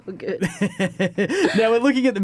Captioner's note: chuckles